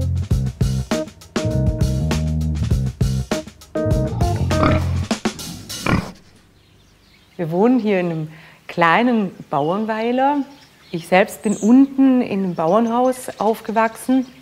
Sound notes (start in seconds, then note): 4.0 grunting